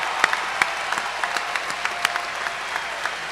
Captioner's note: cheers and applause